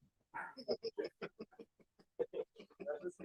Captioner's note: laughing